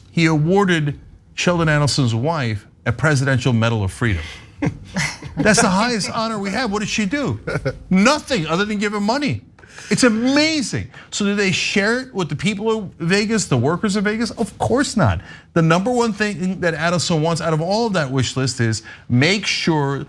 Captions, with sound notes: He awarded Sheldon Adelson's wife a presidential Medal of Freedom. >> [LAUGH] >> That's the highest honor we have. What did she do? Nothing other than giving money? It's amazing. So did they share it with the people of Vegas? The workers in Vegas? Of course not. The number one thing that Adelson wants out of all of that wish list is